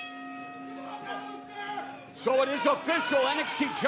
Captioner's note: bell ringing; crowd cheering